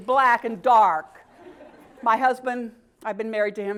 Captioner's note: laugh